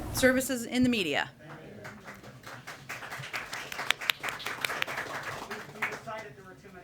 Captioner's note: applause